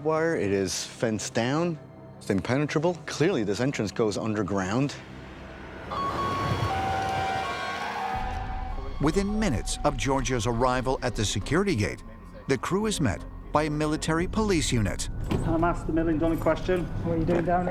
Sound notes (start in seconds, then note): 5.8 siren